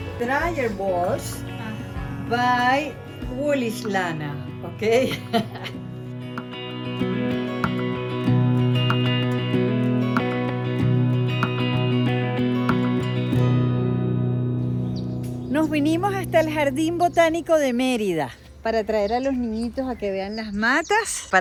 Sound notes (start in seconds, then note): 4.9 laugh; 6.3 soft guitar music